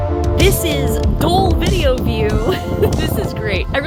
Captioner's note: chuckles